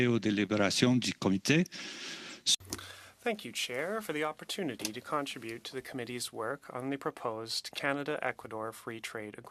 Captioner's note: speaking French